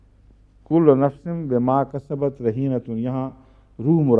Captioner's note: Arabic